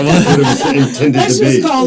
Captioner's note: participants laughing